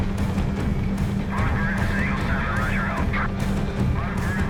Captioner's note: radio dispatch chatter